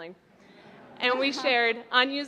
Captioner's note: laughter